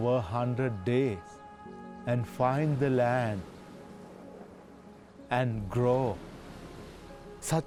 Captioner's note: waves crashing